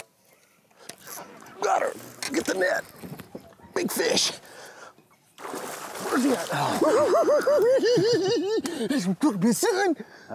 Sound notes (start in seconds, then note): 6.4 laughing